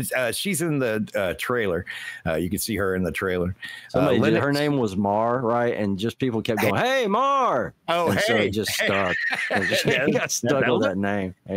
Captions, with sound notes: She's in the trailer. You can see her in the trailer. Her name was Mar, right? And just people kept going, hey, Mar. Oh, hey. And so he just stuck. [LAUGHTER] He got stuck on that name.